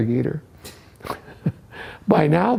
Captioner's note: chuckles